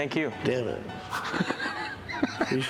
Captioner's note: laughs